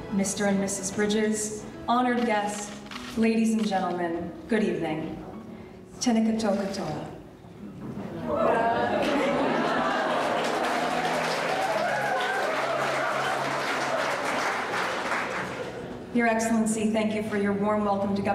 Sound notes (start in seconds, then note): 6.3 speaking in foreign language; 8.1 audience laughing; 8.9 audience clapping